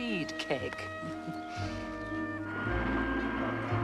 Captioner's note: Terkekeh